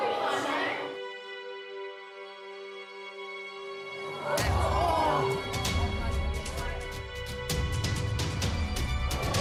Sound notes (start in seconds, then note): 4.1 audience gasping; 7.4 soft music